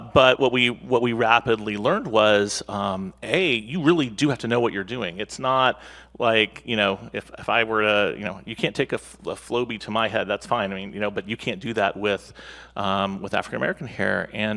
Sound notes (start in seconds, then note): none